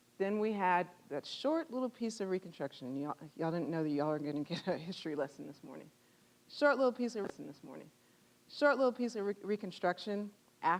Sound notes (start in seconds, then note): 5.9 chuckling